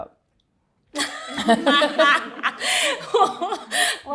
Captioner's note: all laugh